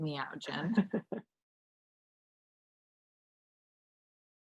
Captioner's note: chuckles